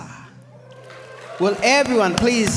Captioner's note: audience applauds and cheers